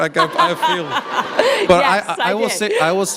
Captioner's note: laughter